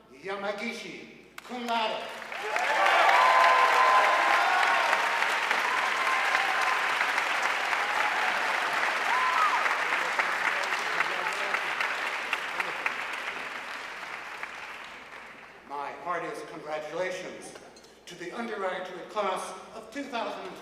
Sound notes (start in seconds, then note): 3.8 audience cheering and applauding